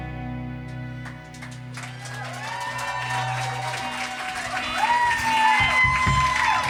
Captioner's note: audience applauding and cheering